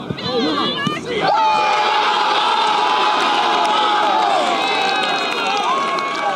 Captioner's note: cheering